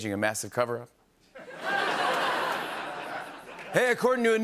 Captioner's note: laughter